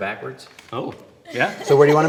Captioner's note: laughs